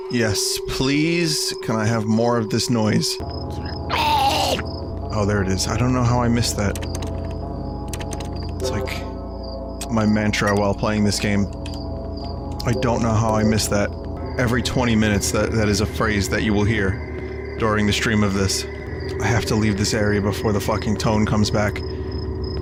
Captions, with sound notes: Yes, please, can I have more of this noise? (Gurgles) Oh, there it is. I don't know how I missed that. That's like, my mantra while playing this game: "I don't know how I missed that." Every 20 minutes, that is a phrase that you will hear during the stream of this. I have to leave this area before the fucking tone comes back.